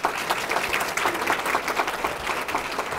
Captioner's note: applause